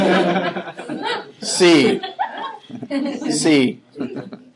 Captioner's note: laughing